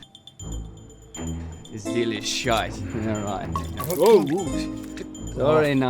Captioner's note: liquid spills